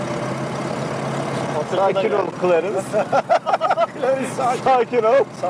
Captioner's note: laughings